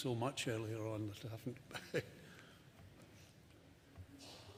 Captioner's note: chuckles